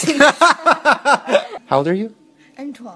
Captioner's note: Shane laughs